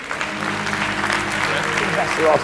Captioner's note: applause; inspiring piano music